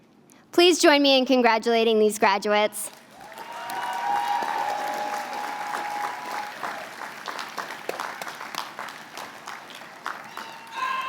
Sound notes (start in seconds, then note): 2.8 applause